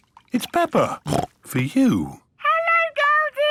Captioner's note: snorts